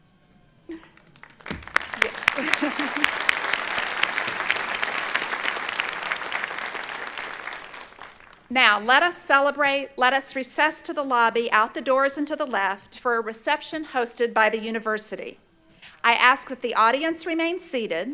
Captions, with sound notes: (Applause) Now, let us celebrate, let us recess to the lobby, out the doors and to the left, for a reception hosted by the university. I ask that the audience remain seated,